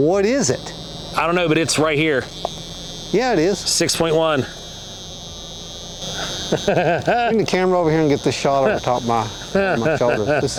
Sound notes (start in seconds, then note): 6.1 laughing